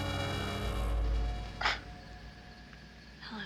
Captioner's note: scoffing